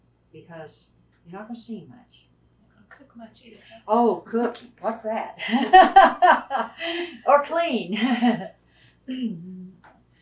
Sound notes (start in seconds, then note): 5.5 laughs